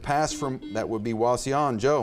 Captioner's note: buzzer beeps